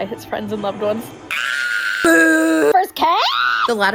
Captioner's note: screams & boos